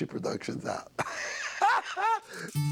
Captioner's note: laughs